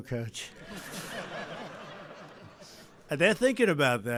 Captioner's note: laughter